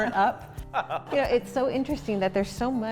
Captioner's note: all laughing